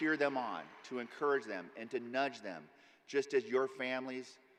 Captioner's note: applause